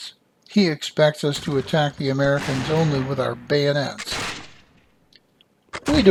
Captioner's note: musket fire